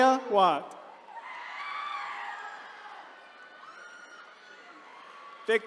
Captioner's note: attendees cheering